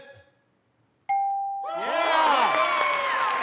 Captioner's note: ding; cheers and applause